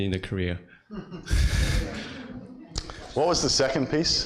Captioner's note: audience laughs